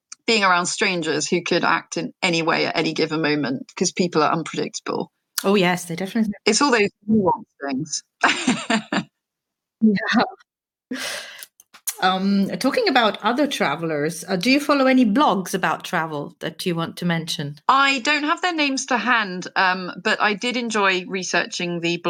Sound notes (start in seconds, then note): 8.2 laughs